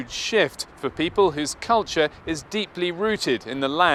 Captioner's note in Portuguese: Som de tráfego em grande avenida